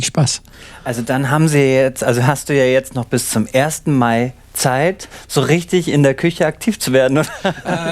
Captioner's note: laughing